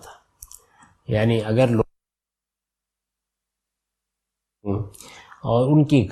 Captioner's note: audio Missing